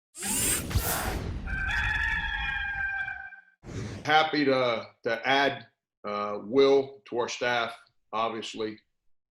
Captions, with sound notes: (whoosh) (cock crows) - Happy to add Will to our staff obviously.